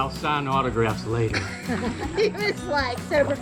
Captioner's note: chuckling